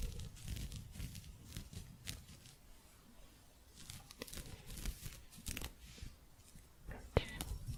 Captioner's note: gentle scratching